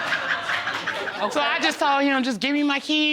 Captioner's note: laughter